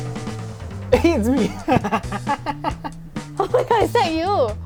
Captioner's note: laughs